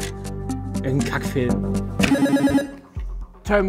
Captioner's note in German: Buzzer